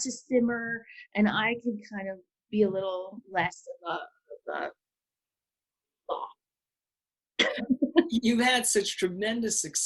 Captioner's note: laughs